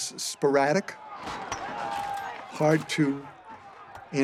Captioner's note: glass breaking, objects clattering